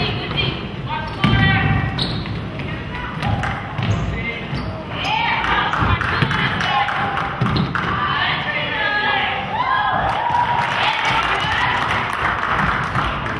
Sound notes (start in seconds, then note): 5.4 crowd claps; 10.0 crowd claps